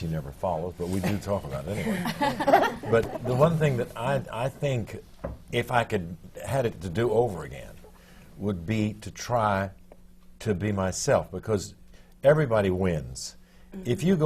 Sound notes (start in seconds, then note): 1.7 laughter